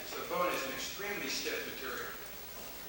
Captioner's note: none